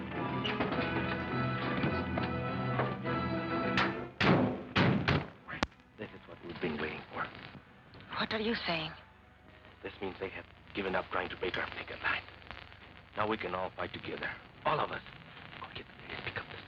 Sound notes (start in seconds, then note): 3.7 car doors slamming; 5.8 quietly